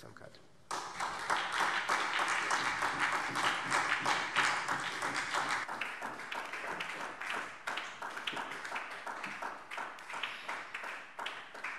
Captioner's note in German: Beifall SPD